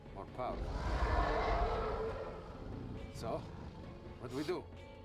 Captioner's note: roars